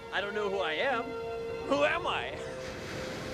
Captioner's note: laughs